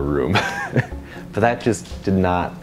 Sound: laughs

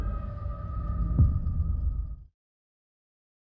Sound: thud

